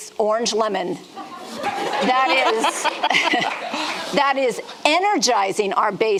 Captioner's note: audience laughing